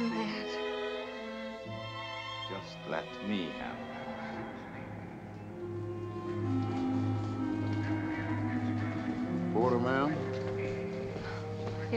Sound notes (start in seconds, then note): 1.1 gentle music; 6.6 somber music; 8.0 announcer chattering